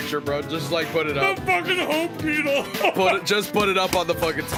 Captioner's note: laughs